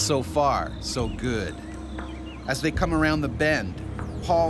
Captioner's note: voiceover